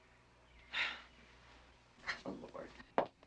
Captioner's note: Darlene sighs